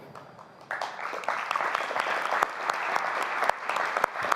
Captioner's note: applause